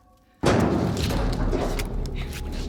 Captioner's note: loud banging